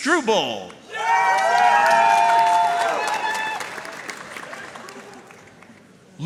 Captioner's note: audience cheering and applauding